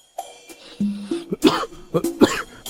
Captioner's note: cough cough